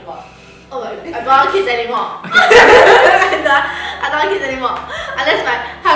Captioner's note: laughter